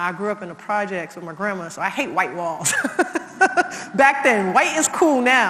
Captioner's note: laugh